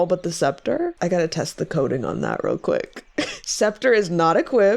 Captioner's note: laughs